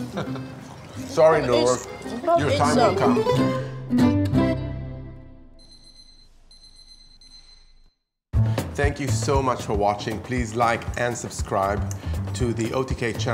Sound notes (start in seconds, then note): 4.2 upbeat music; 5.6 timer beeping